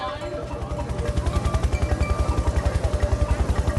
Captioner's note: helicopter lifting off